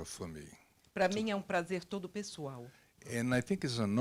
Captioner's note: translator speaking Portuguese